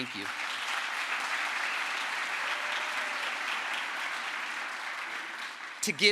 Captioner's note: crowd applause